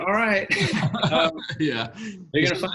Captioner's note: both laugh